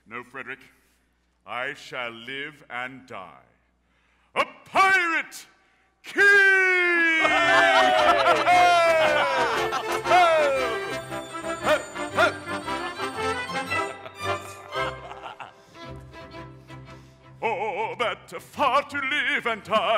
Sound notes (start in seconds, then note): 7.2 all laughing